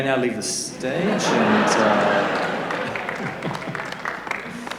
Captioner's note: laughter; applause